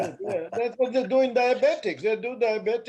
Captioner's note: laughter